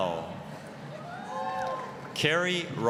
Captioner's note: applause, cheering